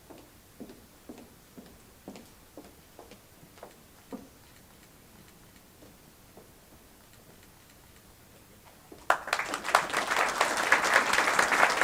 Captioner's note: applause